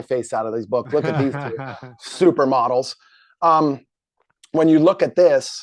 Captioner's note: laughs